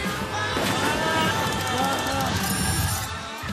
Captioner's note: crash; man groans